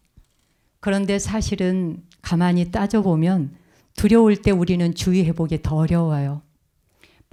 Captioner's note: speaking in Korean